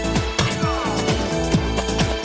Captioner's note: groaning